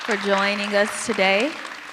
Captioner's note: audience applause